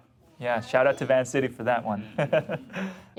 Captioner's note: laughs